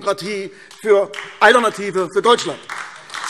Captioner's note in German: Beifall AfD